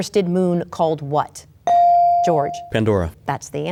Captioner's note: bell dings